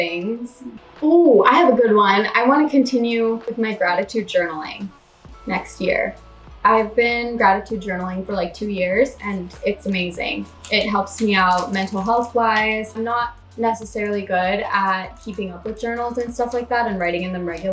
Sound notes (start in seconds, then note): none